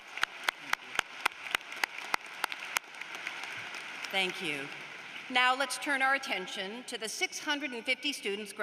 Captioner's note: applause